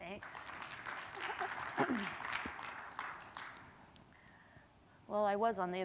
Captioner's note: applause